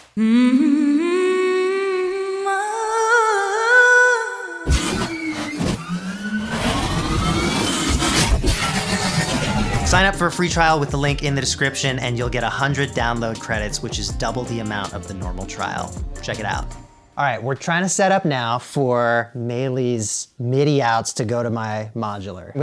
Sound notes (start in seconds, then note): 0.1 melodic humming; 4.7 robot sound effects